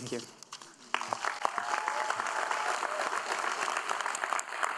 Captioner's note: audience applauding